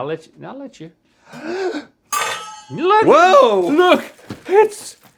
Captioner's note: Rhett gasps